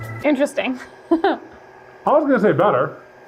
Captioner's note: laughing